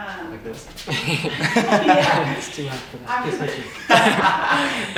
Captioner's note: all laughing